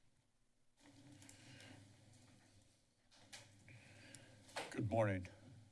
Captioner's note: silence